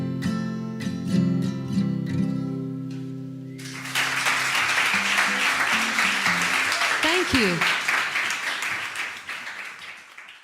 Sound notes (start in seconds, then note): 3.6 audience clapping